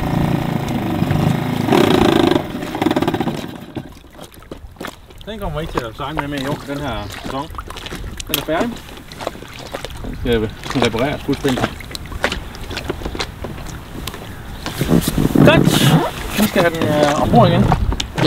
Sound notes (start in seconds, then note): 0.0 the sound of the engine not being able to go into gear